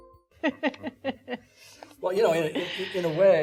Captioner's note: laughing